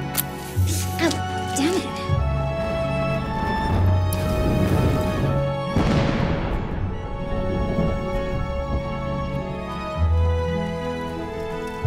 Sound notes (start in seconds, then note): 5.6 explosion